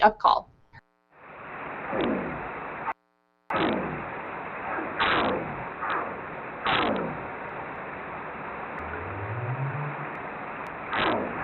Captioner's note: audio plays of gunshot call and up-call